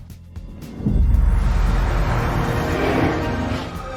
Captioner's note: logo whooshing